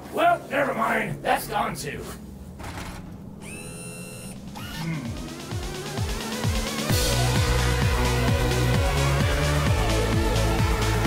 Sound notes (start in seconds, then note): 2.5 whirs; 6.0 upbeat synth music